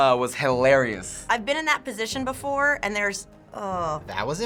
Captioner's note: moaning